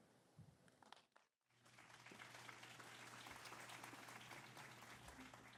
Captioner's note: applause